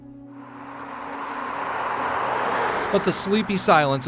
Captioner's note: traffic humming